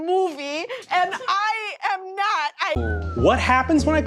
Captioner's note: stifles a laugh